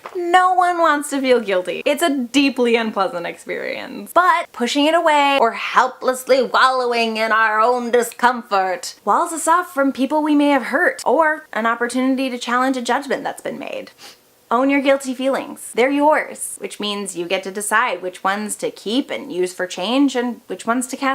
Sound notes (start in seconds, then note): 13.9 sniff